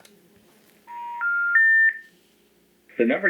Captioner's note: phone Beeps